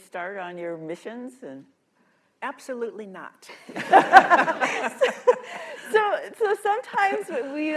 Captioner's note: laughter